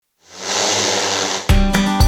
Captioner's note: drone buzzes; upbeat music